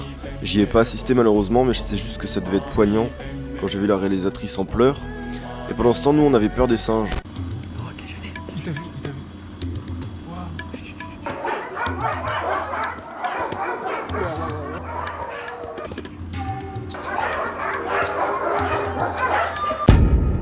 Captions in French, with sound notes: J'y ai pas assisté malheureusement mais je sais juste que ça devait être poignant, quand j'ai vu la réalisatrice en pleurs. Et pendant ce temps nous on avait peur des singes. [Aboiements de chiens]